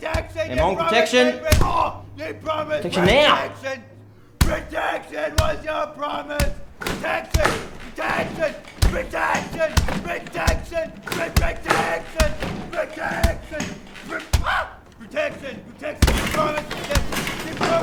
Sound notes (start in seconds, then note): 1.4 yelling incoherently